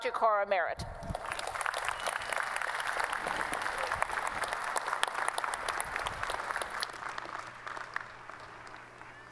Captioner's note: applause